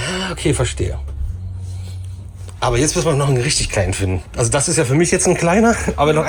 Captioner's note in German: schnauben